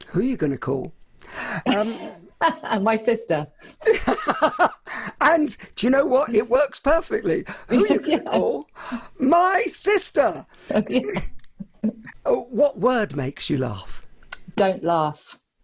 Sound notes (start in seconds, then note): 3.7 laughs; 3.8 laughs loudly; 10.7 laughing